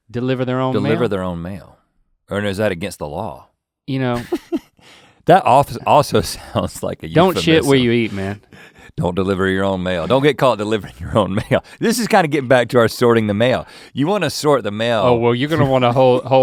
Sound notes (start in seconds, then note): 4.1 Rhett laughing